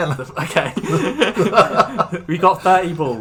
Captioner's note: nervous Laughter